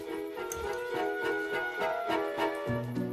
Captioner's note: slurps